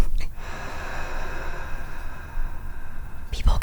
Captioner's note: laughs; heavy sigh